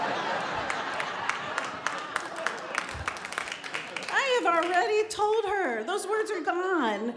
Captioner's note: laughter